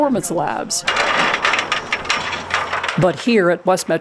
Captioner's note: ladder rattling